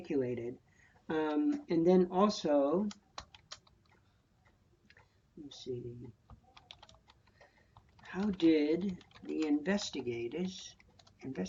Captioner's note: typing